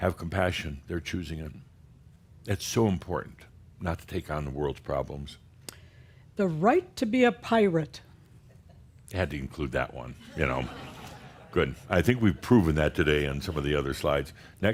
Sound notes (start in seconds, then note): 8.5 a few chuckles